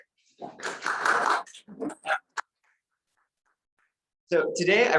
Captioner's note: audience applauds